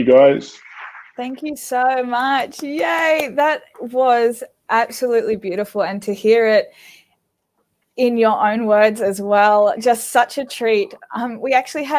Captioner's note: clapping